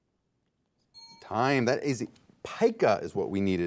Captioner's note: timer pinging